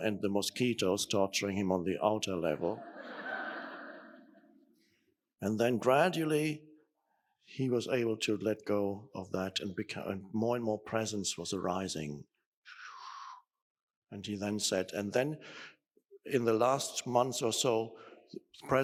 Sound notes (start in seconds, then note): 2.7 audience laughing